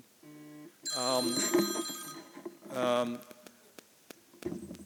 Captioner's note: phone ringing